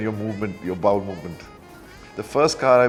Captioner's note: laughs